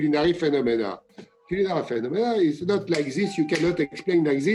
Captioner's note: snaps fingers